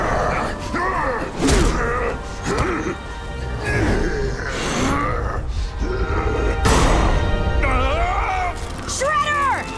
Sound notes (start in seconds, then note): 0.3 grunting